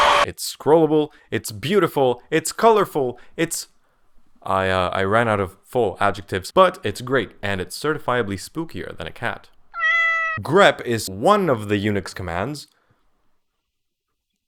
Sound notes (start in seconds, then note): 9.7 meow